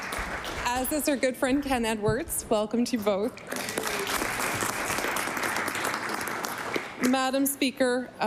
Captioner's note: applause